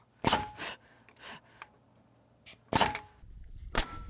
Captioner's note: nail gun shooting